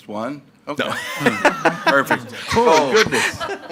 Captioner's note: laughs